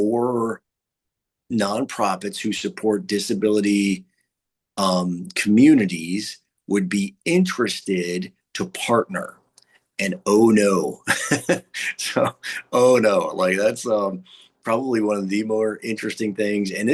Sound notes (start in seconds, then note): 10.9 laughing